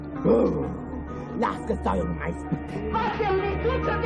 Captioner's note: growling; shouting